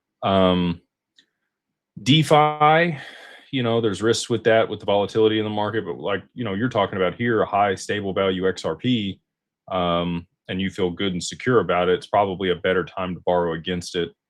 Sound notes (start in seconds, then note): 2.9 sighs